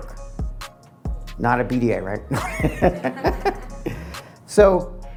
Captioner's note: laughing